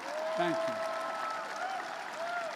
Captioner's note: applause